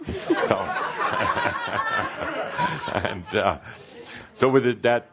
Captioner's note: more laugher